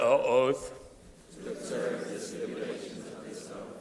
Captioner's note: crowd repeating